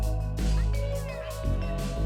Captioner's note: ding sound